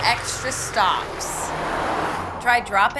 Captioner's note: wheels scuff on pavement